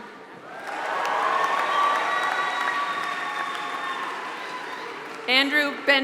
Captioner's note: applause